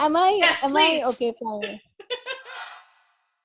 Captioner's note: laughs